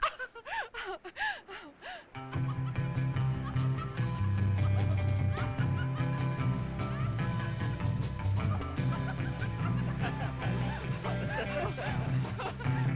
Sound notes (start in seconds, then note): 2.1 both laughing; 2.1 gentle surfer music